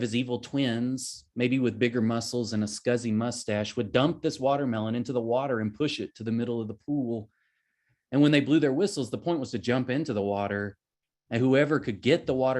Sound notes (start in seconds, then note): none